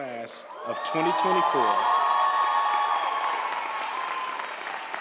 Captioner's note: audience applauds & cheers